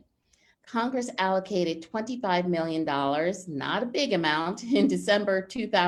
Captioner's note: laughs